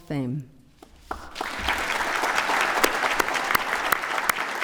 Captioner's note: applause